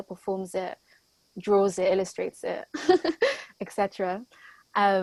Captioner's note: laughs